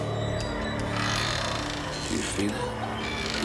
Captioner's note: gate creaking